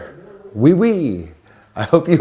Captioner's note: speaking in foreign language